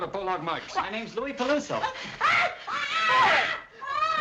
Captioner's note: screaming